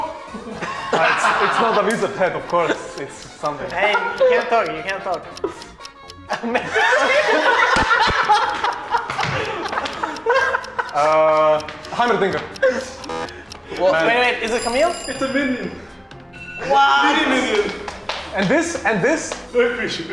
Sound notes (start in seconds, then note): 6.2 all laughing